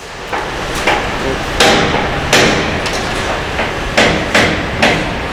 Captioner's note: metal clanging